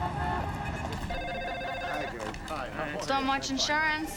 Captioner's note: phones ringing